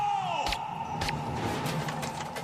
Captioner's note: gun firing; intense rhythmic music